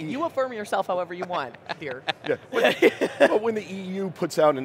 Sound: laughing

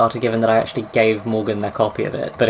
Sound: tape recorder clicks off; tape recorder clicks on

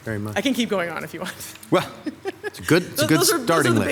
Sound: laughs

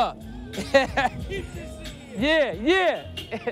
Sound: laughs

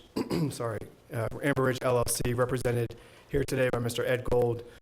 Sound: clears throat

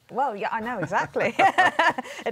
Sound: laughs

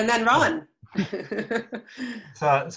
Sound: laughs

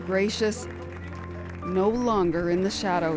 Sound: applause

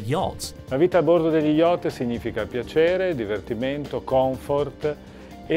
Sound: speaks in foreign language

